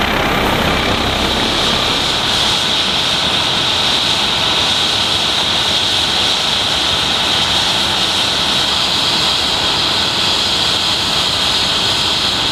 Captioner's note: loud helicopter sounds continue